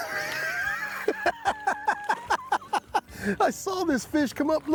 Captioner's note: laughing